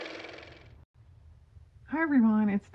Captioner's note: car motor